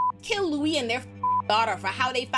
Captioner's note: beep